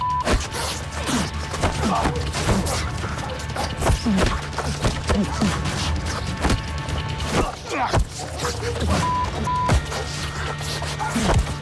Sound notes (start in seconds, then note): 8.8 swearing